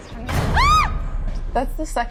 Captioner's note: door shuts; screams